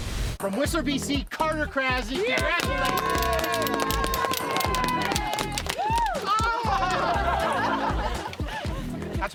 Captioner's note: crowd clapping